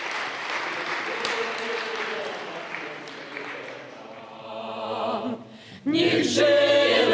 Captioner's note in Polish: oklaski